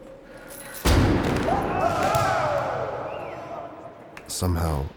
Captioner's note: all cheering